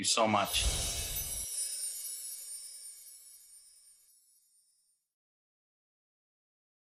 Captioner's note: chiming; whooshing